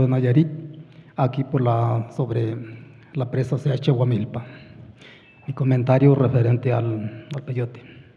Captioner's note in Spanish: habla en wixárika